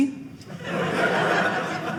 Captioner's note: audience laughing